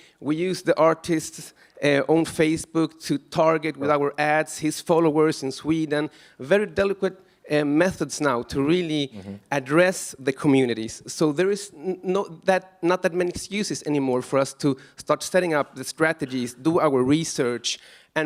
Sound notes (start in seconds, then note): none